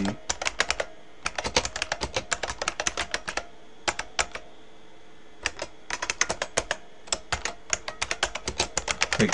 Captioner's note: typing